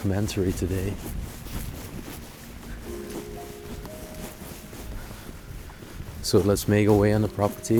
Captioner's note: footsteps tapping